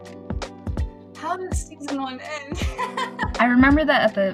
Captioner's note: laughs